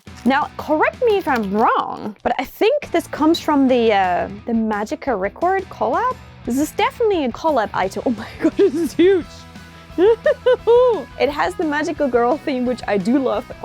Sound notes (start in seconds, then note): 9.9 laugh